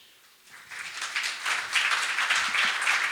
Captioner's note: applause